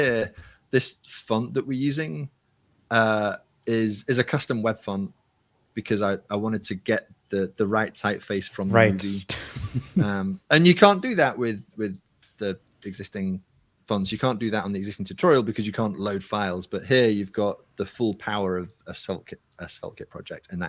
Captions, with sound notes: Here, this font that we're using is a custom web font because I wanted to get the right typeface from the movie. [LAUGHS] And you can't do that with the existing fonts. You can't do that on the existing tutorial, because you can't load files. But here, you've got the full power of a SvelteKit project.